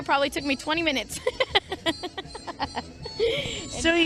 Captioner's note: laughter